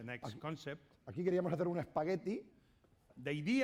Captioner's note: speaking spanish